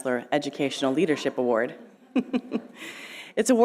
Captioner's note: chuckling